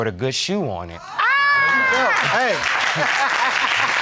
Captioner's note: exclaims